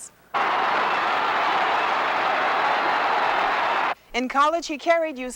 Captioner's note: crowd cheering